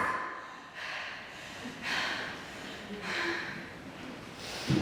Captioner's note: heavy breathing